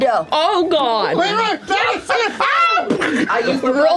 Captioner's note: screams; impacts